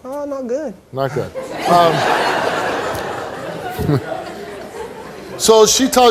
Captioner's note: audience laughs